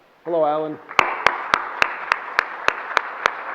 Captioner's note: applause